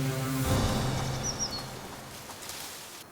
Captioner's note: birds chirping